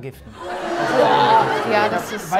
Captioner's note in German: Bestürzte Rufe